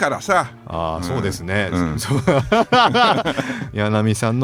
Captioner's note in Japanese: 笑い